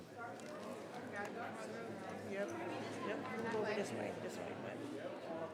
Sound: people chattering

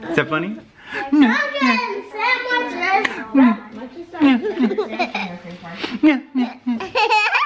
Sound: baby laughing

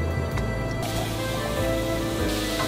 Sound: sizzling

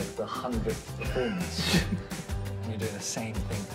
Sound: laughs

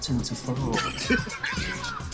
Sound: laughing

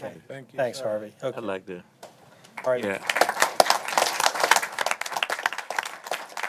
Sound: applause

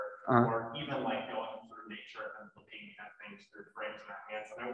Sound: speaks faintly

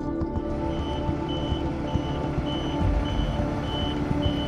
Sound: bus backing up

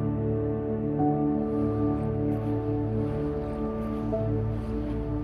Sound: fast moving traffic

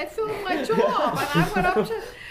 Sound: laughs

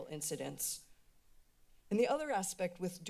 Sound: pause

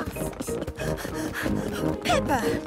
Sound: mummy pig panting

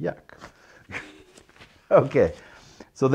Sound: chuckles

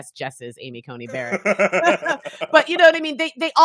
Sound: both laughing

